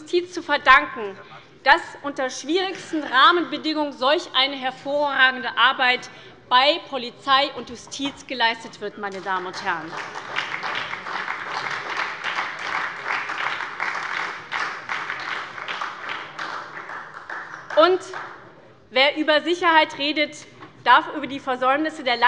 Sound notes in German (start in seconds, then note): 9.1 Beifall bei der SPD